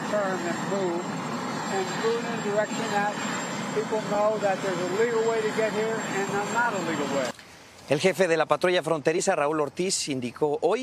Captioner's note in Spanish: hablado en inglés